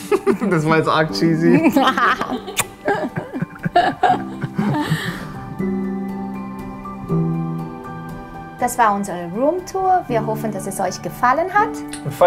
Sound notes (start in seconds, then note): 3.3 laughter; 5.3 happy music